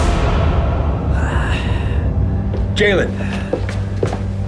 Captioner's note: heavy breathing